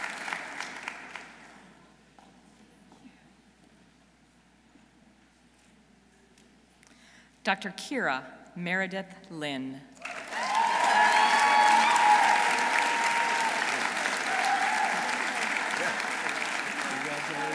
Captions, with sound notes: Dr. Keara Meredith Lynn. -(audience cheering) -(audience applauding)